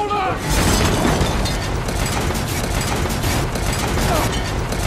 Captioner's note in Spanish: Efectos de sonido de película de temblores y gritos